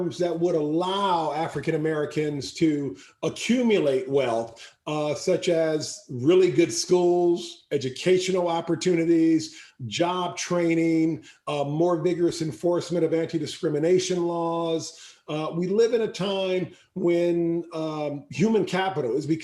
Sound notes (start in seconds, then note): none